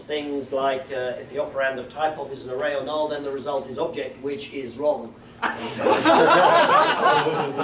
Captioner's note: laughter